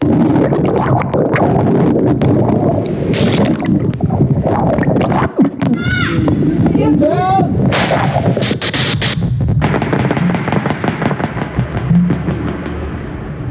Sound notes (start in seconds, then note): 0.0 water rushing; 5.7 children yelling; 9.5 gunfire